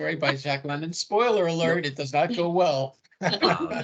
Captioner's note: everyone laughing